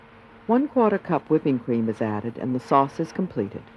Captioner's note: voiceover